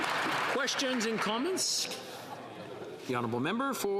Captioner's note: some applause